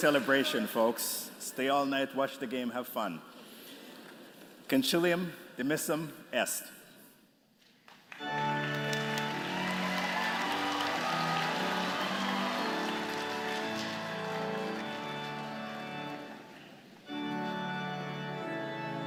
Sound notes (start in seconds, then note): 0.0 applause; 7.8 applause